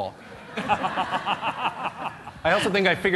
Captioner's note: laughter